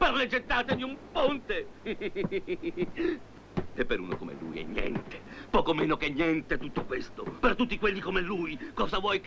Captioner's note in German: gelächter